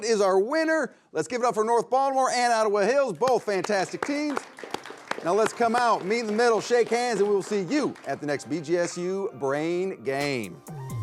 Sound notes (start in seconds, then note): 3.3 all applauding